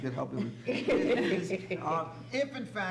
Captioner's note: laughter